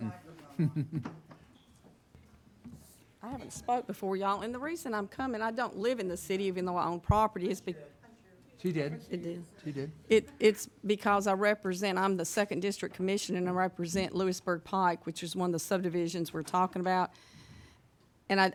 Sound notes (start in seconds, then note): 2.1 chuckles